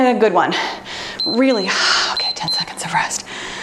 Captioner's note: timer beeps